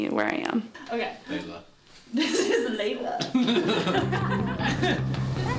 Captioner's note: laughing